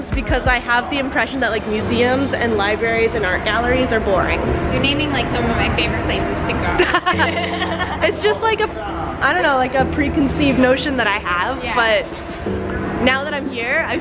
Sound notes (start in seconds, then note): 6.8 both laughs loudly